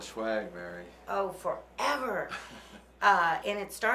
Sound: chuckling

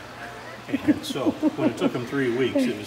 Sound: laughing

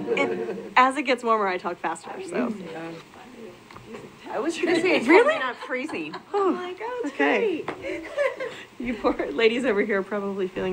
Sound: side chatter

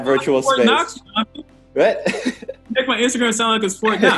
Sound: laughs

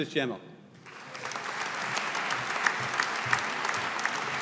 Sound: audience applauding

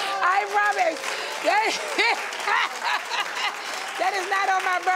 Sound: audience cheers

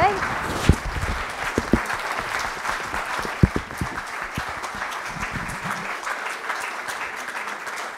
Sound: applause

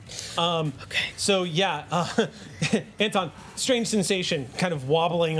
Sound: laughs

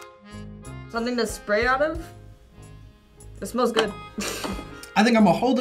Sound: accordion music; laughs

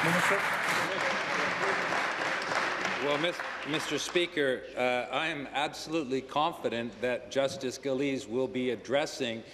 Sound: applause

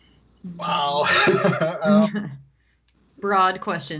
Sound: laughs

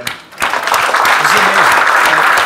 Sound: audience clapping

